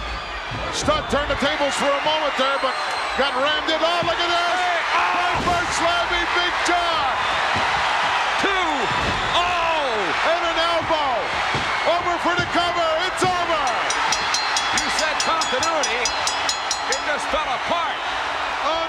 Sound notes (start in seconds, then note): 6.9 audience cheers; 13.4 bell rings; 14.1 audience cheers